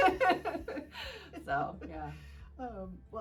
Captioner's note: laughing